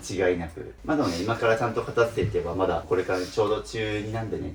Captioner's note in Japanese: 鼻息